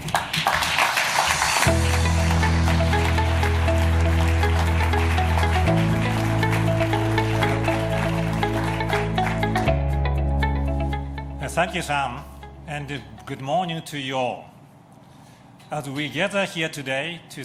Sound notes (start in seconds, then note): 5.8 applause